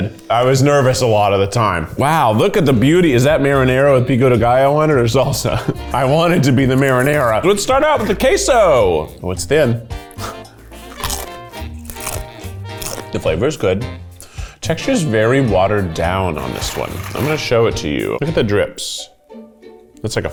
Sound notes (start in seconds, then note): 2.7 upbeat music; 10.2 crunching; 19.2 quirky music